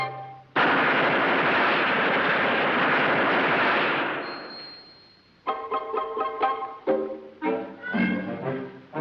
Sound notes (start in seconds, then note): 0.9 metal clanging